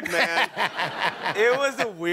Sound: laughter

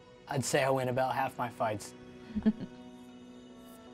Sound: Aileth chuckles

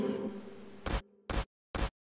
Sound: ominous music cuts out; glitch sound

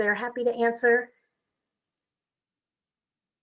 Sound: long pause

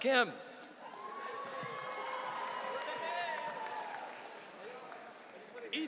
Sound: audience cheering

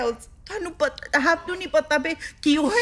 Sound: speaks Punjabi

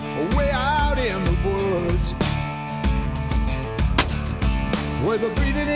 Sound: gunshot

